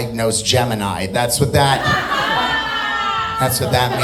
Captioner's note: audience laughing